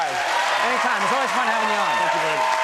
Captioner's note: applause